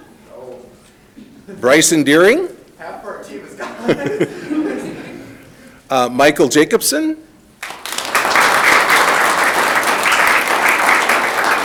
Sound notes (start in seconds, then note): 3.6 people laughing; 7.6 audience clapping